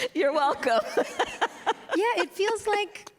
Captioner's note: laughter